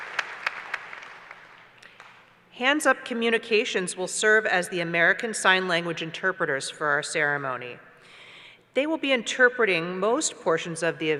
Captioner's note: applause